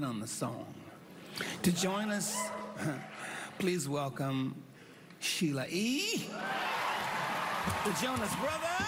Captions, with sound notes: by putting a different spin on the song. To join us... (chuckles) please welcome Sheila E.... (cheering, applause)